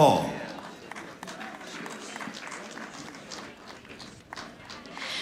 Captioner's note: audience applauding